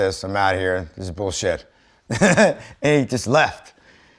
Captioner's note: chuckles